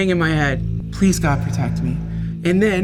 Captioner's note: echoes